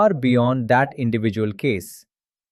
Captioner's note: thoughtful